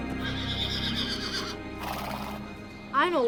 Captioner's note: Bucephalus whinnying